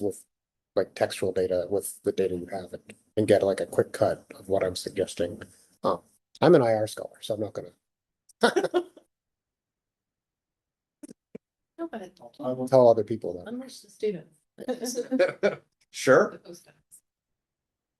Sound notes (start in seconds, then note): 8.4 laughter